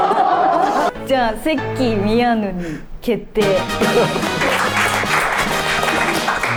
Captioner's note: applause